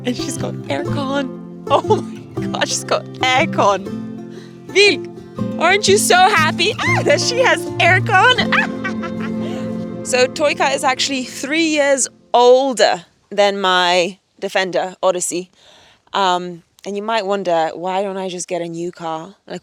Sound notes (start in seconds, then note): 7.9 laughs